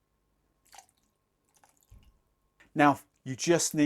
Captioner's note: pouring